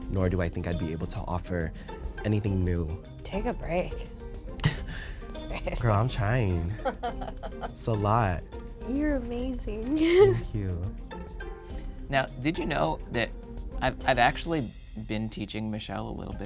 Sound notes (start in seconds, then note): 6.7 laughs; 10.0 laughs